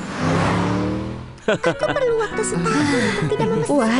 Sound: Bagel chuckles

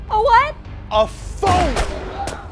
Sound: gunshot

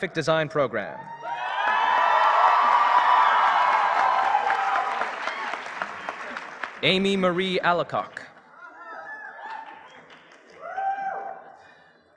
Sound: applause

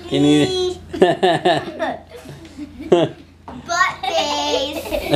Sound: laughs

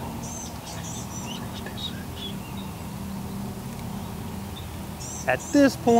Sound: whispering; whispering

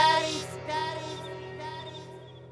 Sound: echoing

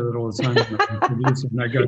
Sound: laughs

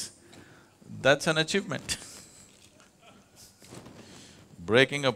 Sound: laughs

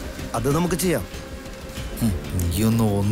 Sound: laugh

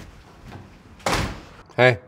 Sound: door closes

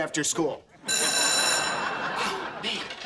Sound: bell ringing

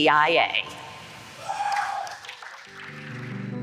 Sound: cheering and applause

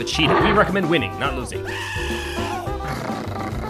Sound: burrito screams

